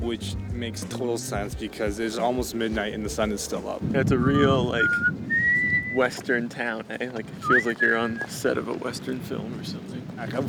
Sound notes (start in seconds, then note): 4.1 whistling